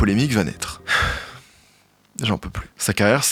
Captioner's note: sighs